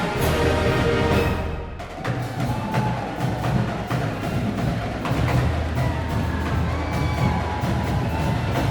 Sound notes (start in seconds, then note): 0.0 cheering continues